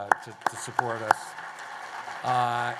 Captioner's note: applause